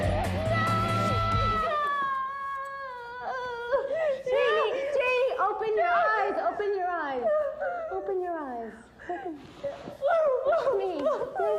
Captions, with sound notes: No! (cries) - Janie, Janie, open your eyes. Open your eyes. Open your eyes. - No, no, no. - Look at me.